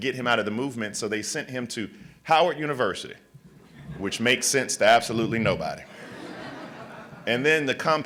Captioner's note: laughter